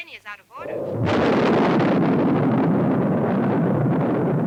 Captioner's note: thunder rumbles